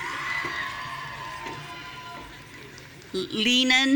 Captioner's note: audience cheering